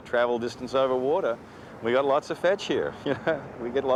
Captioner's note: laughs